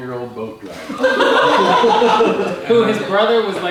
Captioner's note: group laughs